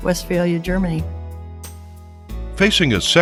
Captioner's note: voiceover